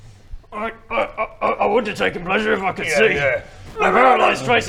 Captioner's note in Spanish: con esfuerzo